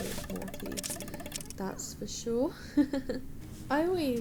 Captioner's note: giggles